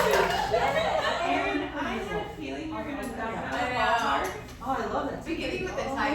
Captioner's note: chatter